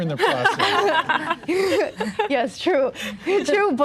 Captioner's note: laughs